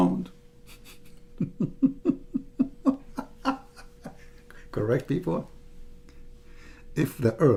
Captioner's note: Ketawa